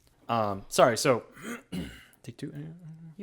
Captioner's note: clears throat